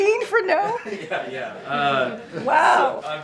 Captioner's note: laughter